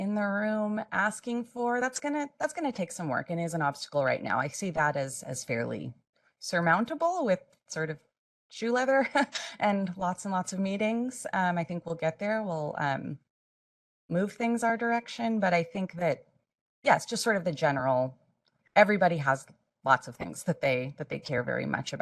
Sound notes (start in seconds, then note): 8.9 laugh